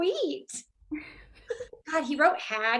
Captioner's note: Lydia and Alice laughing